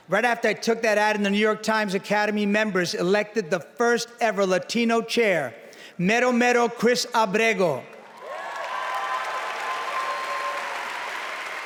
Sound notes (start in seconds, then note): 5.9 spanish; 8.0 cheering, applause